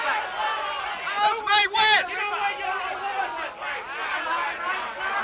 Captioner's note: all shouting; shouting continues